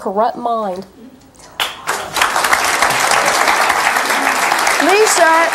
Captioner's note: audience clapping